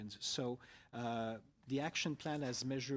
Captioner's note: speaking French